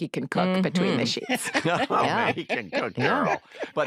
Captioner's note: all laugh